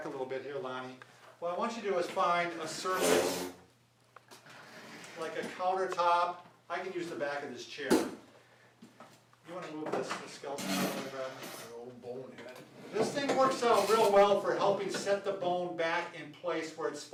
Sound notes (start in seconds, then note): 2.6 chair scraping against the floor